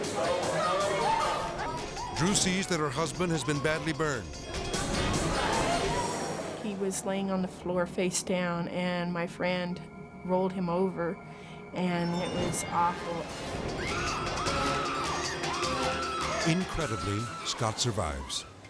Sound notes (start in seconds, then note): 0.0 people clamoring; 13.2 intense music; 13.8 screaming